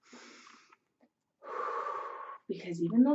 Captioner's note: inhales; exhales